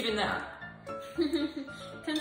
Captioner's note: giggle